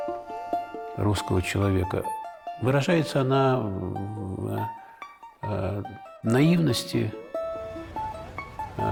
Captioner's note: Aleksandr Sokurov, in Russian